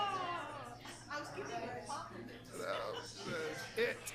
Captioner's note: people chattering